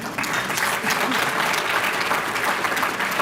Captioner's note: applause